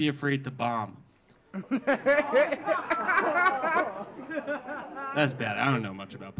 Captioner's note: audience gasping; audience laughing